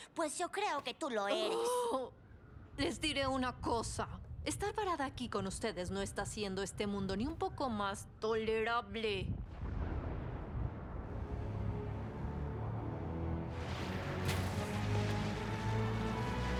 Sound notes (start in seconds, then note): 1.4 groan